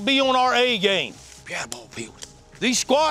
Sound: whispering

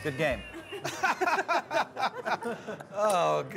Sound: laughing

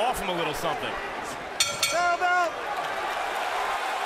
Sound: bell dinging; cheers and applause

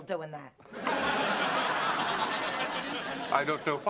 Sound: laughter

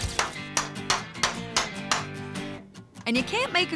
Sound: hammering

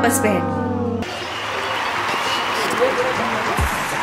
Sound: applause

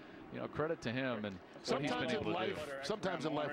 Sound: speaking on the field

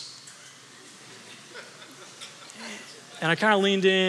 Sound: congregation laughing

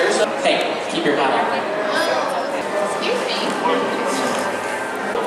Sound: crowd chattering

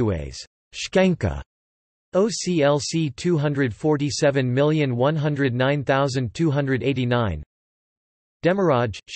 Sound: in Albanian

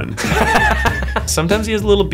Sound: laughter

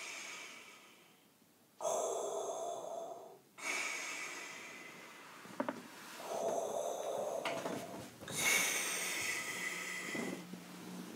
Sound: heavy breathing

